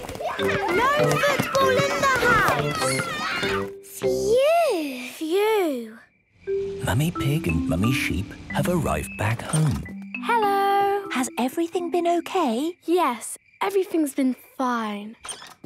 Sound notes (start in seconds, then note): 6.4 whispering